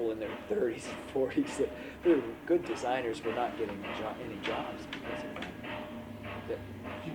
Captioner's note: laughs